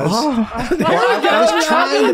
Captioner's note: Rob burping